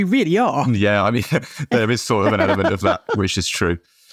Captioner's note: both chuckling